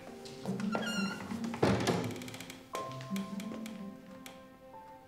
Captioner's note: footsteps plodding; door squeaking and clattering